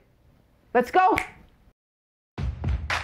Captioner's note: fingers snapping; upbeat music